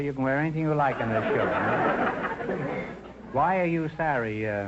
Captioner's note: audience laughter